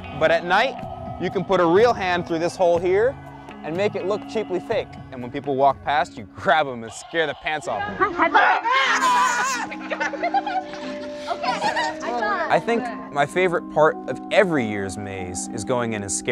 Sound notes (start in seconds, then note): 8.3 screaming; 10.0 laughing